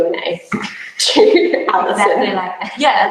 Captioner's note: both laugh